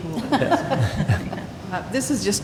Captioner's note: laughter